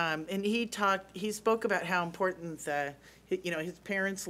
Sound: none

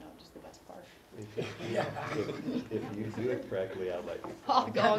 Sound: laugh; laugh

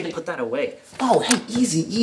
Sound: click

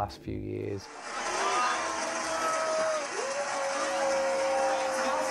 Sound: crowd cheers

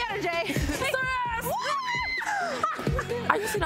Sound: playful screams

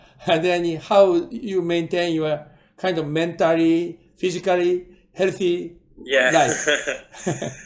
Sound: laughs

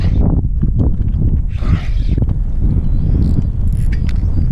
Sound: wind blowing loudly

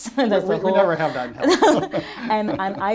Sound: laughing

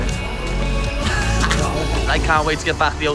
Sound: laughing

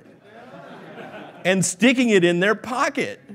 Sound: laughing

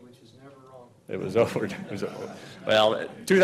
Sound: laughing loudly

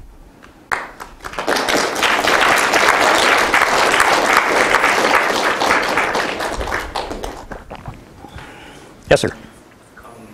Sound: applause

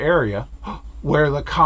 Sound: gasp

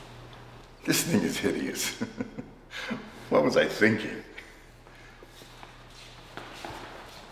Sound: laughs

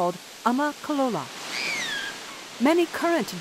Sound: excited Toddler Scream

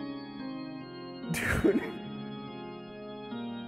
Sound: ultrachuckling

